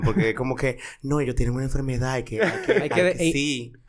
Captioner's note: laughs